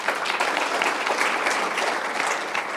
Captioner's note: applause